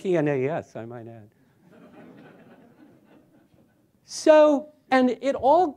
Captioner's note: laughter